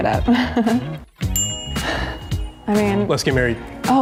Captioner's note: chuckles; bell dinging